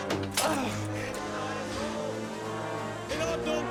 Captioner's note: grunts